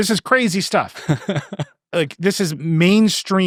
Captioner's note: laughing